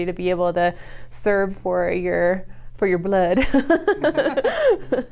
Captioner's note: laughs